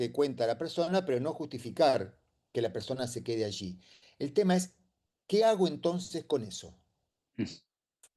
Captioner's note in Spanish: carraspeo